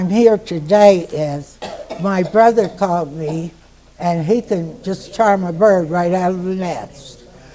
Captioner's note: couching in background